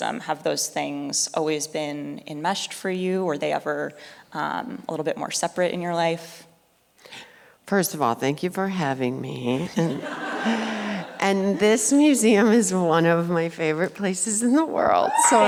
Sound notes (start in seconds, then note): 9.8 audience laughs